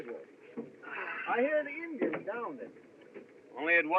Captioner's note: sighs